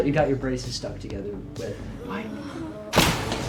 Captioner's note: students groan